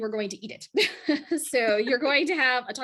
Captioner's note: laughs